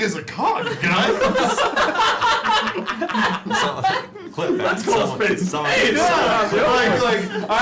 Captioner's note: laughter